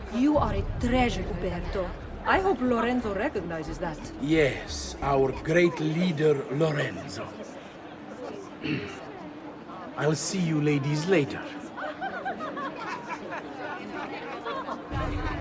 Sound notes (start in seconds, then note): 8.6 coughs